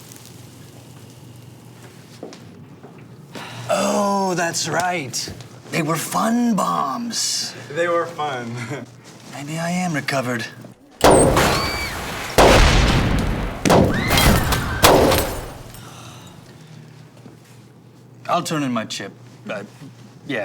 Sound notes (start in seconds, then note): 11.0 exploding